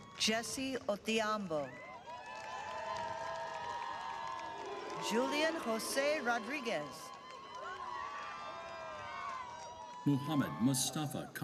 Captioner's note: cheering and applause